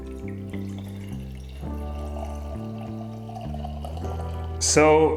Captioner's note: beer Pouring